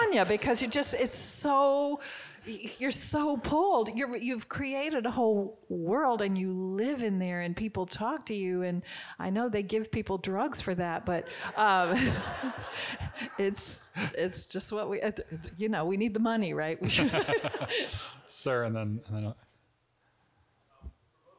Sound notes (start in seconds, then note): 11.2 audience giggling; 16.9 both giggling